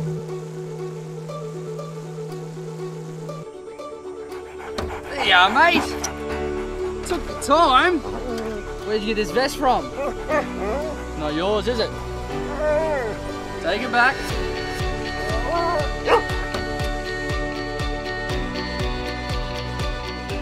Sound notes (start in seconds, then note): 4.3 dog panting jumps in back of ute; 8.0 dog moans; 10.7 dog grunts; 13.0 dog whimpers; 15.4 dog whimpers and barks once